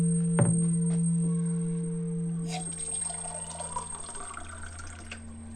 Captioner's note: distant children shouting